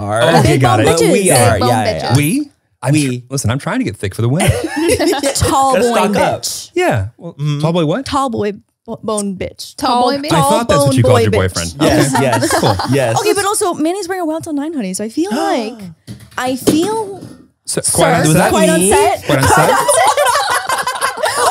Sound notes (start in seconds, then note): 15.9 Manny gasps; 17.6 water bottle falls; 19.3 everyone laughs